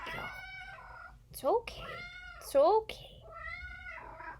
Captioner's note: cat meowing; cat meowing; cat meows